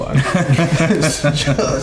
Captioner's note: laughing